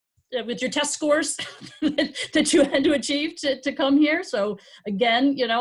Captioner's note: chuckling